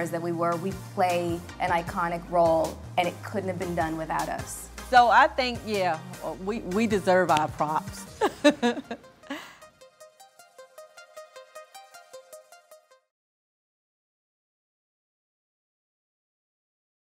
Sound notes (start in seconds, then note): 8.2 laughs; 9.1 gentle computerized music